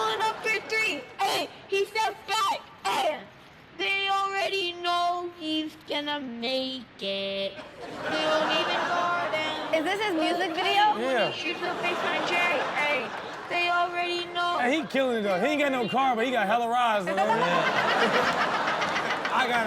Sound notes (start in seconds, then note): 7.6 audience laughs; 17.0 laughs